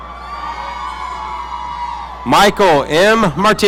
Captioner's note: audience cheering